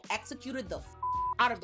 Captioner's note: beep